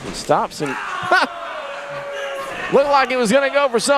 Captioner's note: dramatic laugh